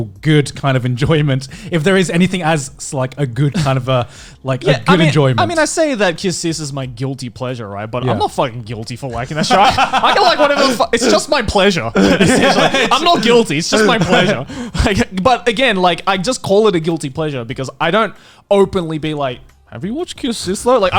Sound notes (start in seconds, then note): 9.1 laughing